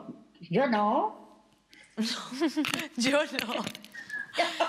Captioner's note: laugh